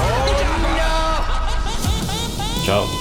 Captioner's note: screaming